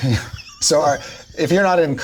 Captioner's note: all laugh